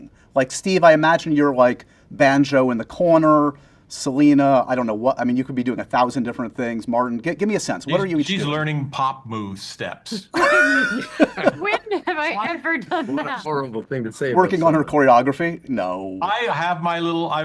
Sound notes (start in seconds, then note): 10.3 laughter